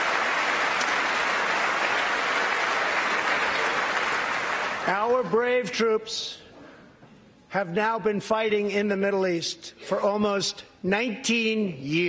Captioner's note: applause